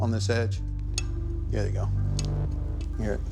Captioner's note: sword clinks